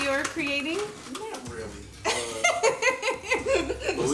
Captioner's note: Angela laughing